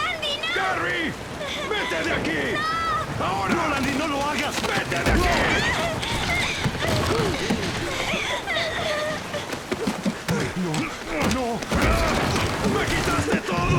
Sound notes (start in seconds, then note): 8.1 crying